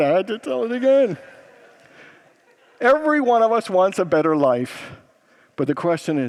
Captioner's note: congregants laugh